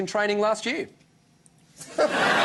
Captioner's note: laughter